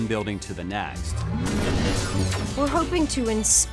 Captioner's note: laser sounds